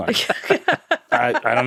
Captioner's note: all laughing